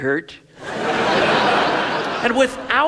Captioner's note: audience laughs